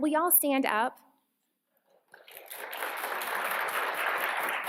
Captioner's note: applause